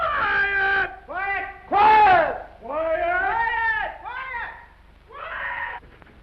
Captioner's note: all shout "Quiet" sequentially